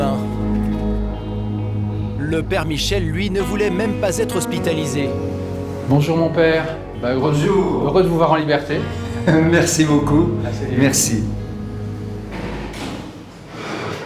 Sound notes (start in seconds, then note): 5.9 French spoken audio